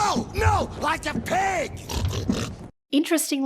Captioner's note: snort snort snort